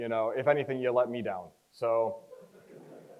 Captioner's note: crowd chuckles